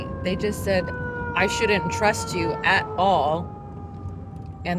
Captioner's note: none